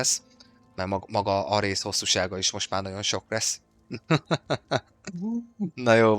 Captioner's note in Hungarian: nevetés